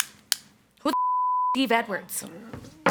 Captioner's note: beep